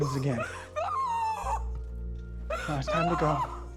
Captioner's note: Mrs. Hill shrieks